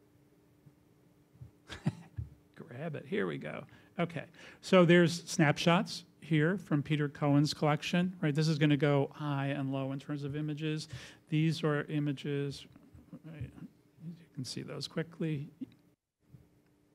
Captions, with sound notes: (laughter) Grab it. Here we go. There's snapshots here from Peter Cohen's collection. This is gonna go high and low, in terms of images. These were images. You can see those quickly.